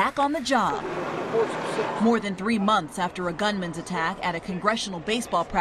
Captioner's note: cheers and applause